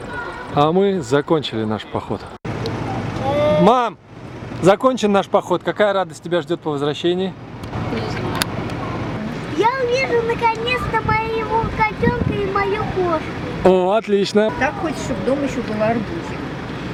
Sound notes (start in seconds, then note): 8.6 murmuring